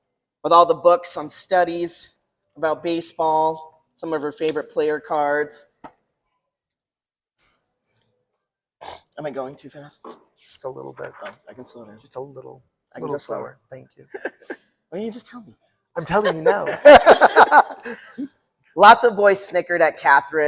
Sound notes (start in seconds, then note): 16.1 laughter